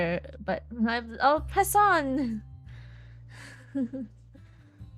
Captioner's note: awkward laugh